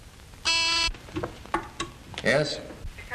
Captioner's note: intercom buzzing